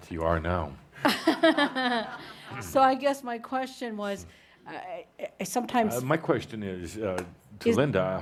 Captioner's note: laughing